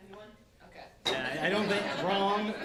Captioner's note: laughter